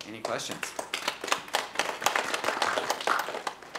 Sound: applause

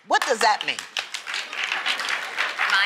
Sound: applause

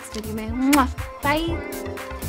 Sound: blows kiss

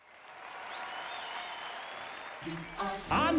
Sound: audience cheers, whistles

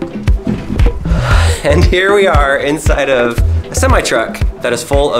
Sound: laughs

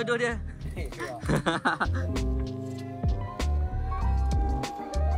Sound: laugh

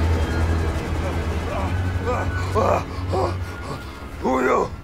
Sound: speeder engine whirrs; Vag'duban grunting

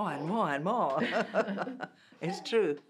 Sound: laughs

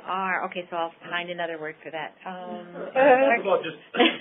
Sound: laughs

